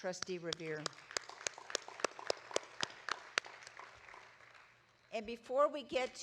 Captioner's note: audience applauding